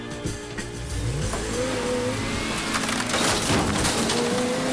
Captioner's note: truck engine revs